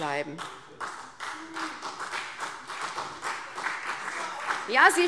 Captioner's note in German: Beifall CDU